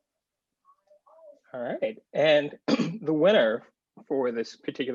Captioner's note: clears throat